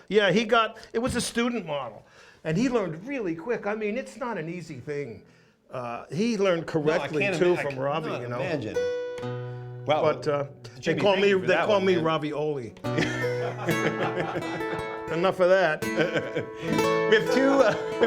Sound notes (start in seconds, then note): 12.8 laughs